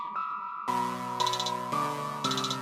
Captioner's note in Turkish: elektronik bir ses ekleniyor